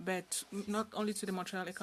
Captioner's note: speaking French